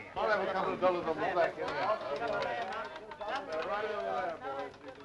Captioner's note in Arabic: الناس يتحادثون